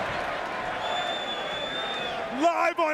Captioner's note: fan whistling